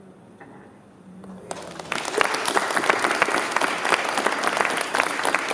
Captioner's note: applause